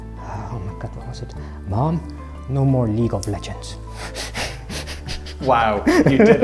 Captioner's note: chuckles